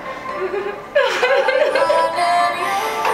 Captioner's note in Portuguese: risos